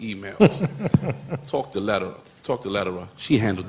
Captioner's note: laughter